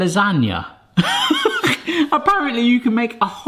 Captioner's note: laughs